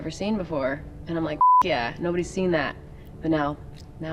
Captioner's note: beep